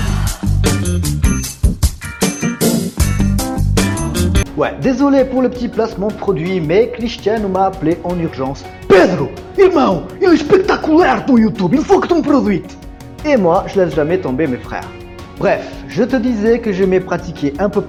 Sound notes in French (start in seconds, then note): 7.9 Accent portugais